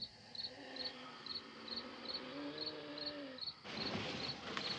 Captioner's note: wheezing, groaning